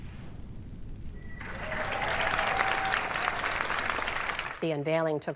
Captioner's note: applause